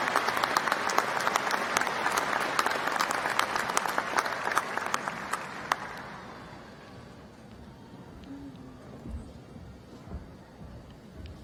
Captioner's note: applause